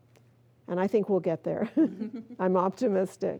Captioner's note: both chuckling